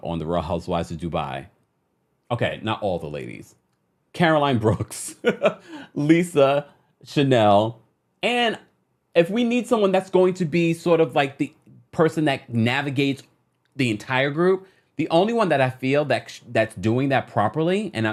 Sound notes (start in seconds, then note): 4.6 chuckles